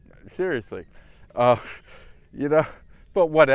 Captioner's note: laugh